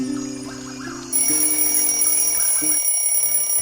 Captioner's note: alarm clock rings